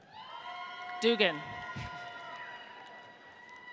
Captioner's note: audience cheers